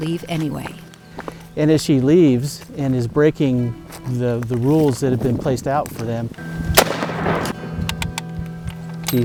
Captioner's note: gunshot